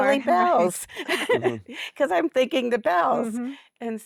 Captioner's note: giggles